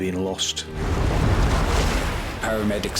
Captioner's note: waves crash